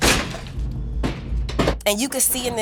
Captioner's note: slam